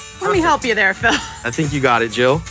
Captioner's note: laughs